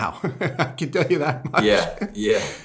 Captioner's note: laughter